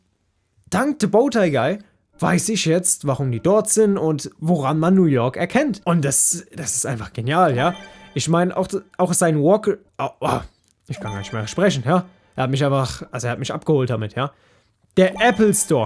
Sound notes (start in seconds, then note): 8.0 Weird sounds, like a Bantha